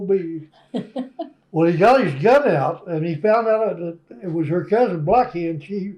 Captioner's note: laughter